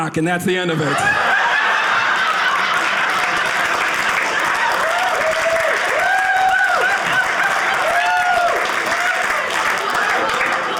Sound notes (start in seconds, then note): 0.7 audience laughing; 4.8 audience cheering